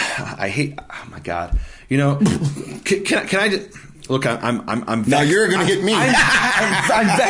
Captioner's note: laughing